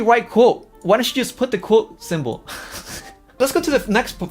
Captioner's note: laughs